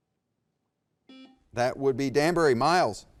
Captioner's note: button beeping